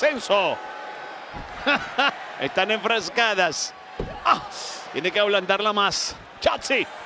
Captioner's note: laugh